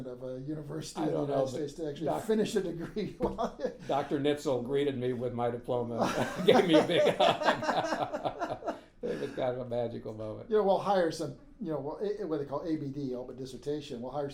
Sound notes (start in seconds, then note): 2.7 laughing; 6.0 laughing